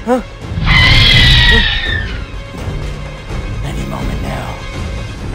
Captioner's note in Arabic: صراخ هيرميس